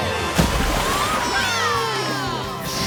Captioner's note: cheering